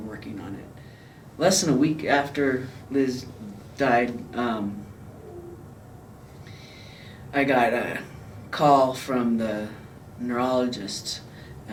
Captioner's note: breath catches